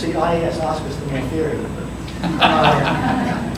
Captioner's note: audience laughter